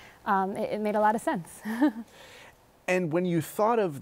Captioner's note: laughs